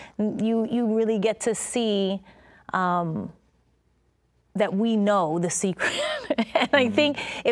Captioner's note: laughing